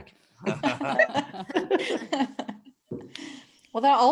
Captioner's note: all laugh